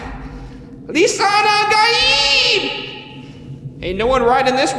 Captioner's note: speaking foreign language